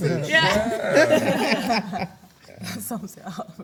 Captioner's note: everyone laughs